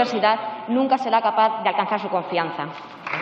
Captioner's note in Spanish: Aplausos